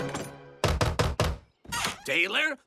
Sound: knocking

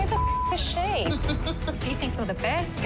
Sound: laughs

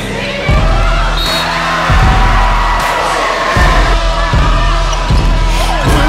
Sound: whistle blows, cheering

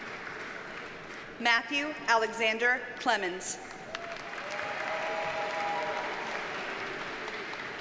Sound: audience cheers and applauds

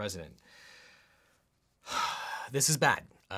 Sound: loudly sighing

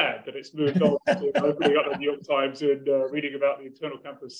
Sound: laugh

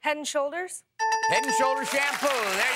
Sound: dings

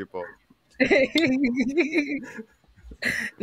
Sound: laughing

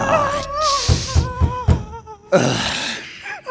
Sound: knocking

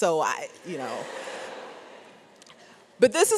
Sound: audience laughs

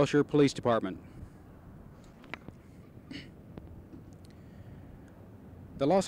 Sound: parking lot noise

